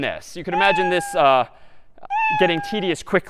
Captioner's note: meow